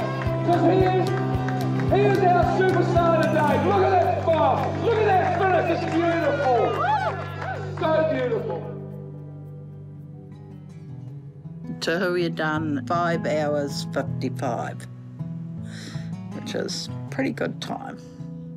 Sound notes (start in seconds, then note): 6.6 attendees applaud